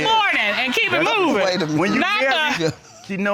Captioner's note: laughs